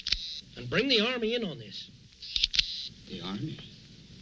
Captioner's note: camera clicking